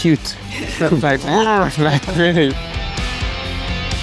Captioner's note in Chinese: 笑聲